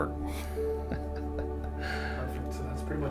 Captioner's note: laughs